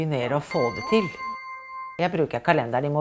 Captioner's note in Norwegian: alarm